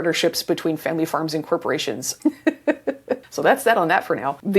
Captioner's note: laughs